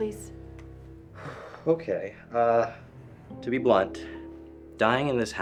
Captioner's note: sighs